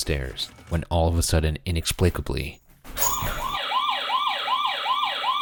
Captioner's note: alarm blaring